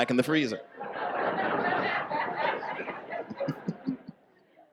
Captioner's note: audience laughs